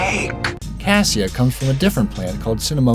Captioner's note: voiceover